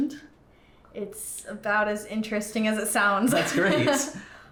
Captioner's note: laughs